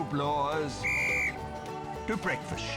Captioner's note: whistle blows